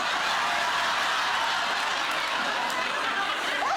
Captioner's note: audience laughing